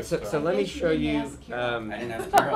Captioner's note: laughter